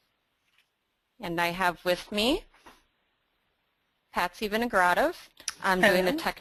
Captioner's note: voiceover